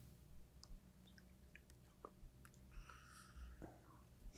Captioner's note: team whispers